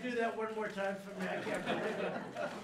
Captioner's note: laughter